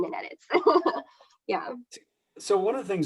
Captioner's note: laughs